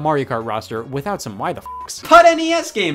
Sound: beep

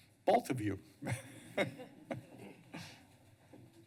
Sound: laughs

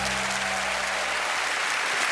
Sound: whistles

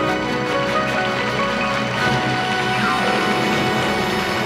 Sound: audience applauding

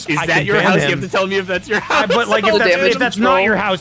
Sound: laughs

